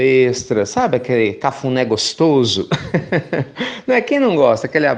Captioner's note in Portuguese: Risos